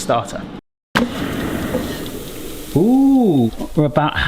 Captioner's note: onions sizzling